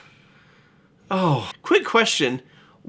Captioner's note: sighs